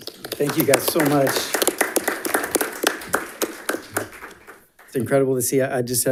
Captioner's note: audience applauding